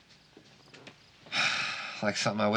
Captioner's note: sighs